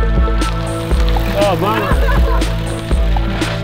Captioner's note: laughter